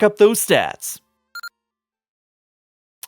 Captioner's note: beeping